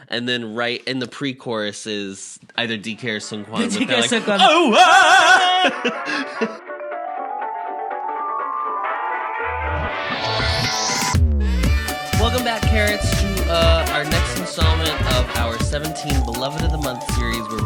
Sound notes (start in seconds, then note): 3.6 giggles